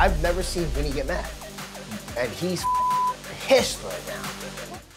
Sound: beep

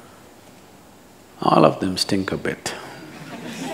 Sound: laughter

